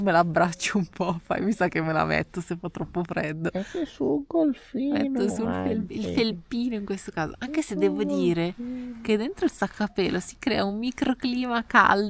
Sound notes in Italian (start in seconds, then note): 5.7 schiarire la voce